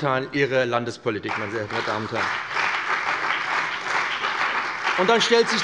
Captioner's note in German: Beifall bei dem BÜNDNIS 90/DIE GRÜNEN und der CDU